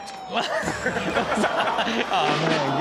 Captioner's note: audience laughs